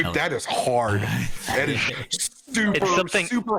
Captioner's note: agreeing laugh